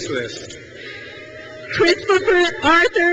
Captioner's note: crowd cheers